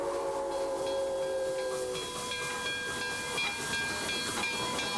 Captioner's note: bell clanging